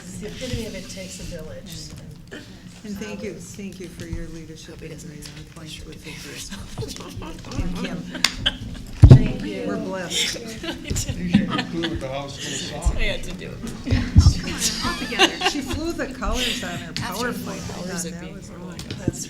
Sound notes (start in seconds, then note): 9.2 laughing